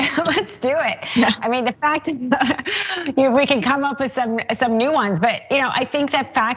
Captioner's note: laugh